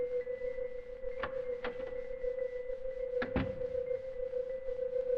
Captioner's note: door opens and shuts